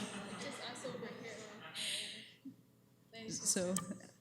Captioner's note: laughter